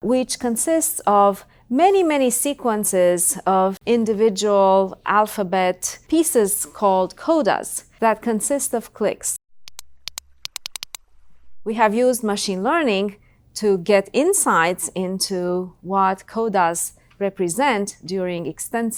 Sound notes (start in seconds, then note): 9.6 rapid clicking